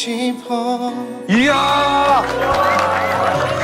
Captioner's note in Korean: 모두 박수